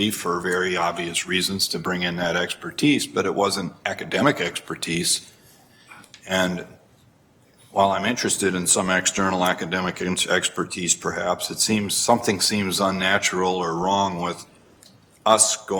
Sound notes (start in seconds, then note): none